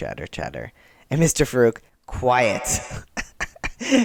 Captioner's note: echoing